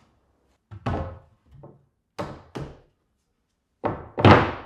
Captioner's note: wood thudding